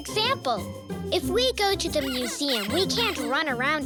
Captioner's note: squeaking